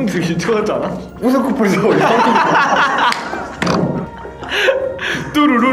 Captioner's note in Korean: 웃음